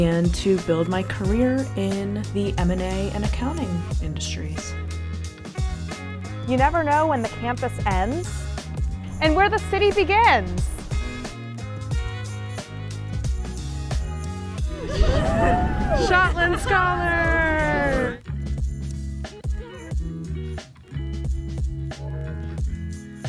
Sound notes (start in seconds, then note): 10.8 lively music; 14.6 crowd cheering; 18.2 lively music